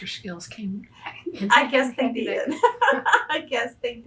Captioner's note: laughs